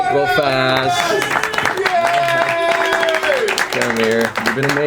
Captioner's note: all applaud